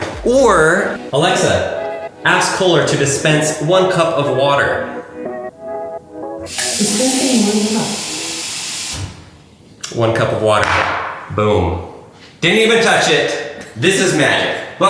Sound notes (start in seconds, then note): 6.4 water running